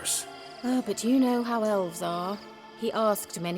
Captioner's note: sigh